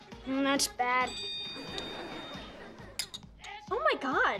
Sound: phone dings

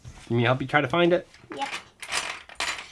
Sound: voiceover

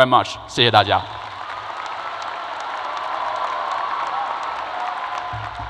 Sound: crowd applause and cheers

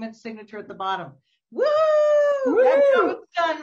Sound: both cheering

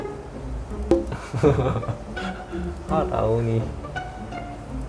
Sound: laughter

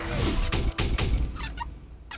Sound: hopeful music; metal clanging

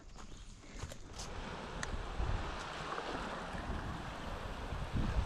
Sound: birdsong; running water

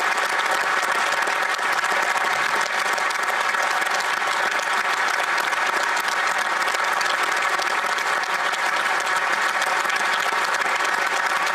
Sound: applause

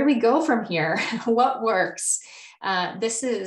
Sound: chuckles

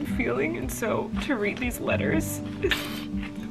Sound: sniffling

